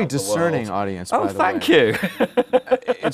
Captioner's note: laughter